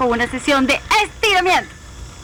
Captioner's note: laugh